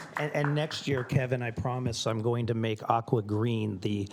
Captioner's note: applause